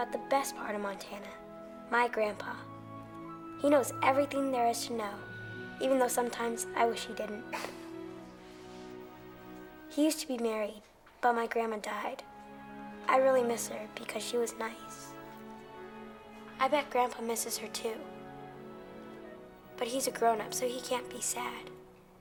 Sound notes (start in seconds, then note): 7.5 Bill chuckles